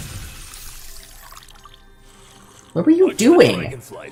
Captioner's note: drink pouring